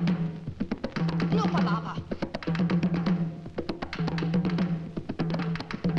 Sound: speaks in foreign language

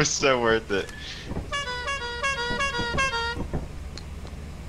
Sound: honk

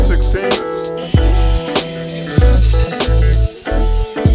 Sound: tools whirring

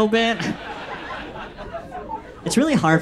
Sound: audience laughs

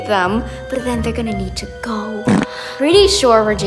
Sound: fart noise

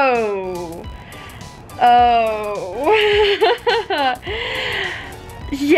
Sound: chuckles

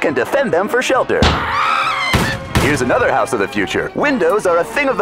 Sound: screams

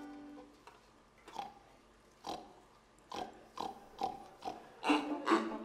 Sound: man grunting to count; toy pigs grunting to beat

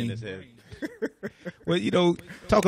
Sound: laughs

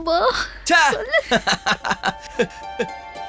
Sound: laughs

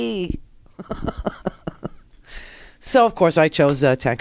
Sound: laughs

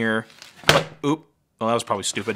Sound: hard drive thudding

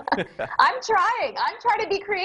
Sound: laughing

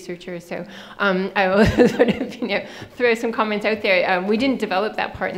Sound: laughing

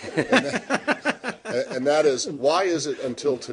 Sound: laughter

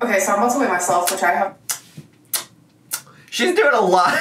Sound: smacks lips

